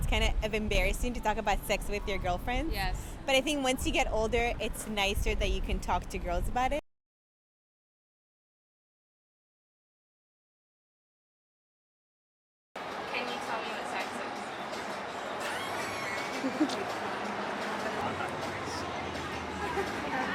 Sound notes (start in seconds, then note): 15.4 nervous laughter